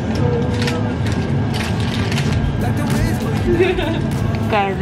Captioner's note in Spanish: la puerta se cierra; el envoltorio se arruga; se ríe